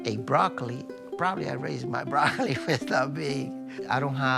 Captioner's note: laughing